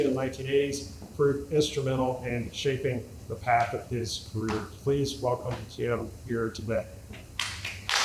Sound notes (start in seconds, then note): 7.4 applause